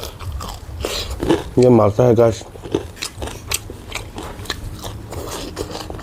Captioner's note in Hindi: नाक से की जाने वाली आवाज़